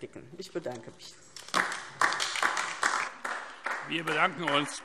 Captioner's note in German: Beifall DIE LINKE